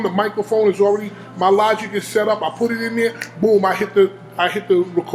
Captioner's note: snaps